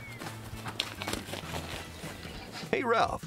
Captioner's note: cow hooves clopping